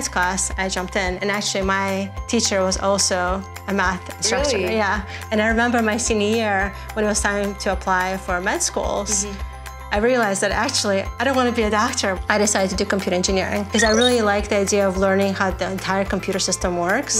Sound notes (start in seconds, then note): 13.7 digital tone